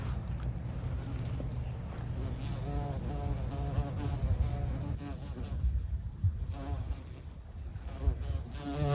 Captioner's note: wind howling